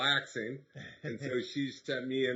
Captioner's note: laughing